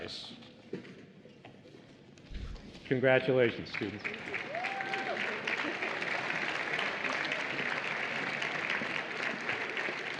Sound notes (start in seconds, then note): 1.8 applause and Cheering